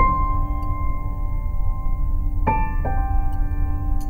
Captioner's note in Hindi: none